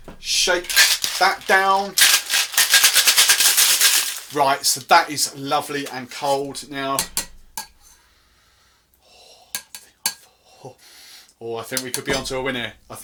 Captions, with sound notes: Shake that down. (ice clattering) Right, so that is lovely and cold now. Oh, I think we could be on to a winner,